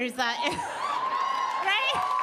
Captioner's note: audience cheering